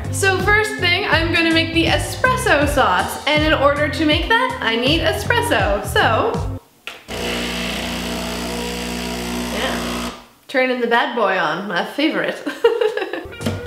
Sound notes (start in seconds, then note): 7.0 machine whirring; 12.5 laughs